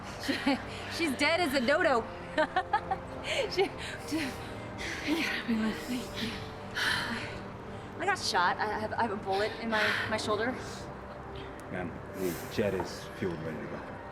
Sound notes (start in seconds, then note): 2.3 laughing